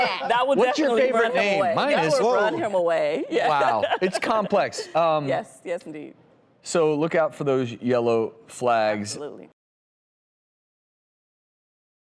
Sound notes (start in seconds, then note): 3.2 laughing